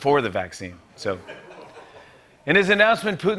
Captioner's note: laughter